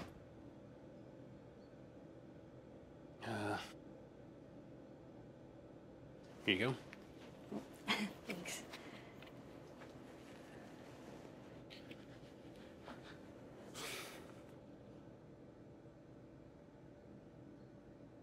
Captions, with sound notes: - Uh... Here you go. - Oh, (chuckles) thanks. (Brett sighs)